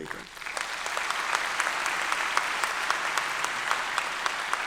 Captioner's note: audience clapping